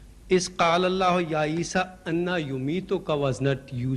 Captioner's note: Arabic